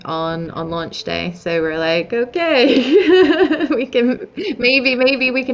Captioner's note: chuckles